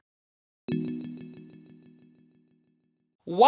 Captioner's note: tune chiming